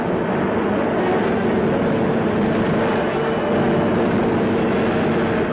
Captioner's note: truck engine whirring